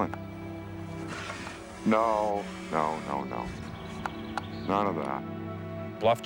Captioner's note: bear growling